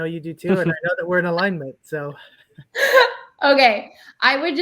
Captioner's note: laughs